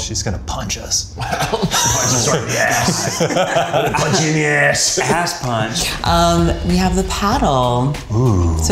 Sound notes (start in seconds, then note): 1.2 all laughing